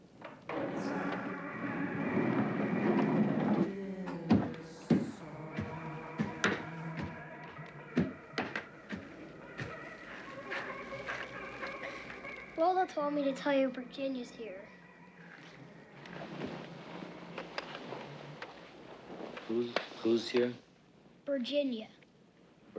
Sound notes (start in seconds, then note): 0.0 skates clatter; 0.3 singing continues; 3.1 skates clatter